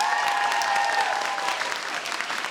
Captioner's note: audience cheers